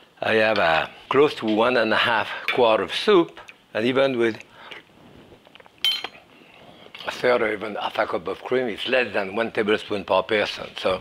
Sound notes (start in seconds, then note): 4.9 slurps